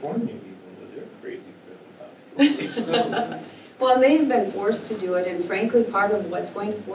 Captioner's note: laugh